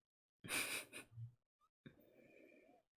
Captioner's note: laughs